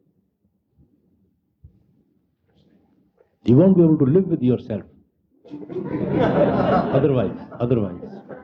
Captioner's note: laughter